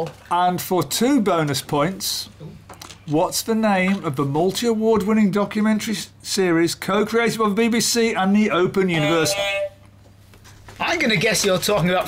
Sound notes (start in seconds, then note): 8.9 beep beep